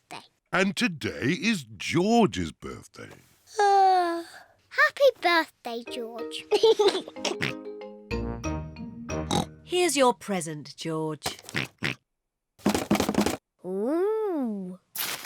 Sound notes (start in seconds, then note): 3.2 yawns; 6.5 laughs and oinks; 9.2 oinks; 11.5 oinks; 12.4 rattles